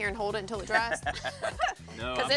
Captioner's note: laughter